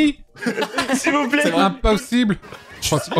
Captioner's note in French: rires